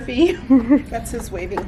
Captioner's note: laughter